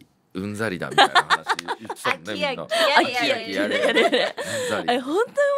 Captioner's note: laughs